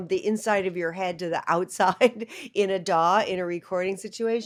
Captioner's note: laughter